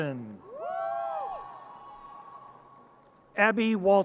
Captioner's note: audience cheers